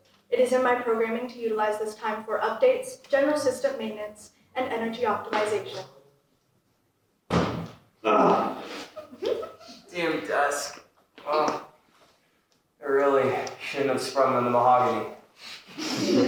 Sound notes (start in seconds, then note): 7.3 thunk!; 8.0 groan